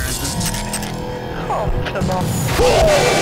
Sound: resonating chord; faint voice

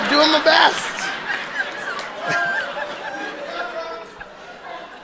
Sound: audience laughing

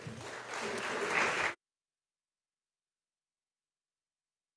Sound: audience applauding

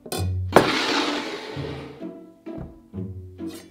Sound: bowl sliding

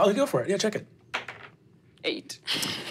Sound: dice rolling

